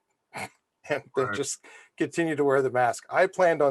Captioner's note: laughs